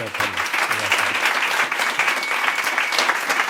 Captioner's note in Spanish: Aplausos